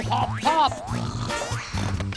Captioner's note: snore snore